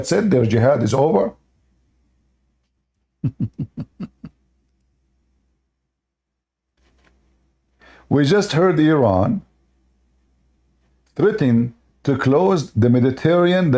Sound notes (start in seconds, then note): 3.2 Ketawa